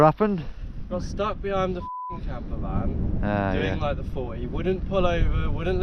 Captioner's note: beep